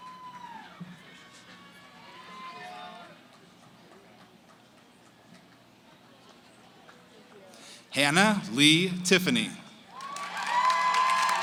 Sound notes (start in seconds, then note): 0.0 cheering, applause; 2.7 background conversations; 9.9 cheering, applause